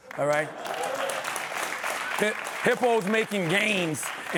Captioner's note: applause